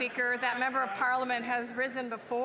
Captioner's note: some Applause